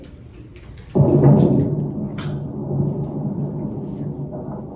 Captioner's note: explosion underwater